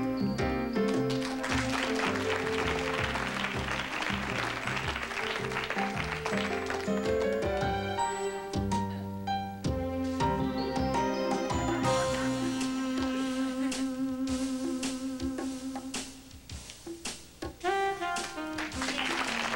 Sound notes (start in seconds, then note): 0.8 applause